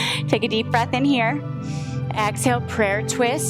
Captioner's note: chuckles; inhales